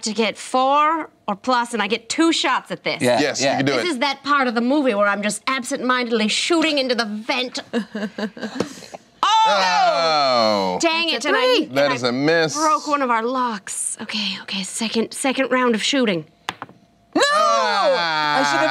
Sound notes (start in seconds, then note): 9.3 groans